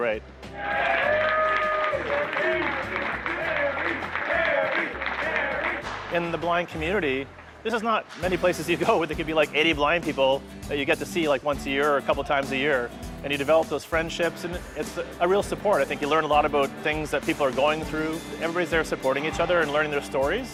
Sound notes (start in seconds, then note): 0.5 crowd; 0.5 crowd cheering